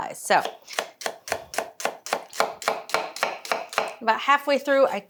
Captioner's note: knife chopping